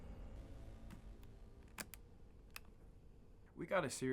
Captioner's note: cassette recorder clicks